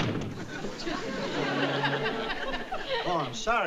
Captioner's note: audience laughing